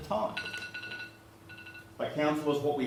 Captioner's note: cell phone ringing